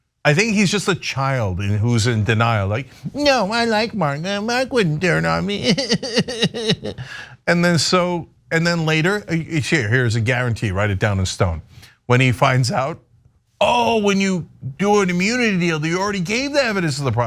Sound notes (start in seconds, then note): 5.4 laugh